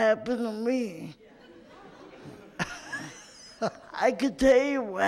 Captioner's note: scattered laughter